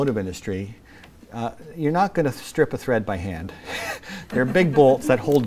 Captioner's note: laughter